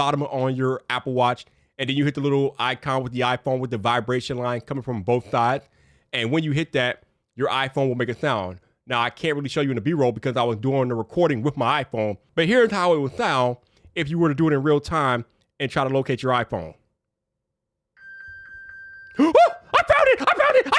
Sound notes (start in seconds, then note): 18.0 phone beeping